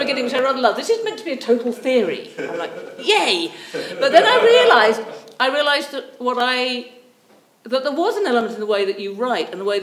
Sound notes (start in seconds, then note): 1.5 audience members chuckle; 2.1 audience member chuckles; 4.6 audience member laughs